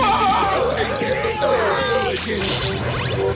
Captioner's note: kiaiing